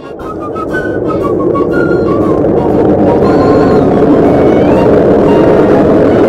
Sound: howling Wind Sound

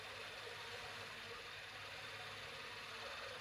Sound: machine whirring

